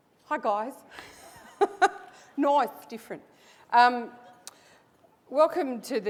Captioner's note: laugh